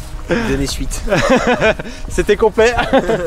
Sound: laughes

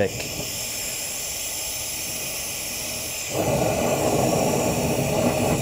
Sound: flame whooshing

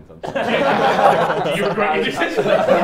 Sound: everyone laughs

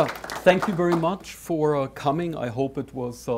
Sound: audience applause

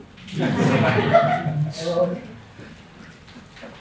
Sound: laughter

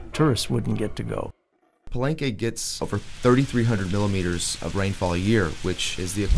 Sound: sounds of thunderstorm

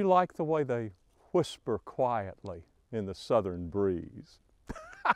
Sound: laughter

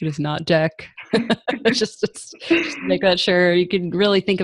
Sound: chuckles

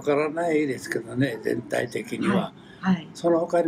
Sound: foreign language

